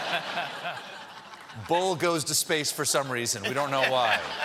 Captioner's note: laughter